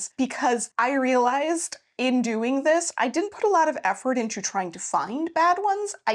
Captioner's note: none